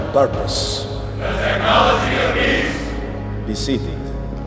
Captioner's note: crowd